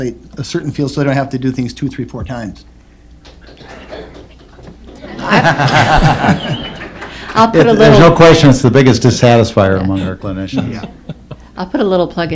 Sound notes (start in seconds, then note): 4.9 laughter